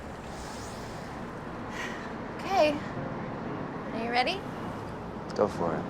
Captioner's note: sighs